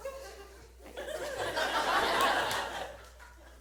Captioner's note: audience laughs